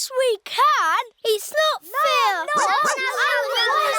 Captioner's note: barks; oinks